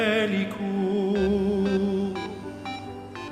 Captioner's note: singing; mobile phone rings